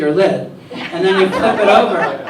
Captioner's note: laughter